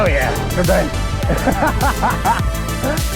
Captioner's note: laughs